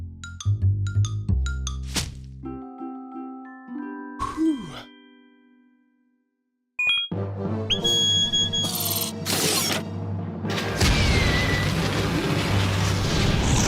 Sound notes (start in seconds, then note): 7.7 beeping; 8.8 whirring; 10.6 whooshing